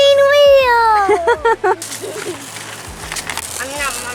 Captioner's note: laughs